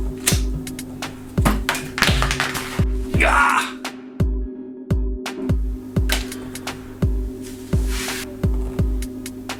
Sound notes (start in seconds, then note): 0.0 snaps; 3.1 yells; 5.8 calm hip hop music